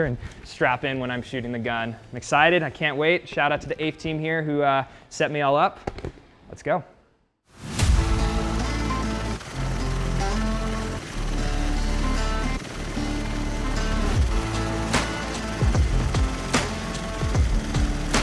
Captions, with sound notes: and strap in when I'm shooting the gun. I'm excited. I can't wait. Shout out to the APE team here who set me all up. Let's go. (blades whirring) (upbeat music)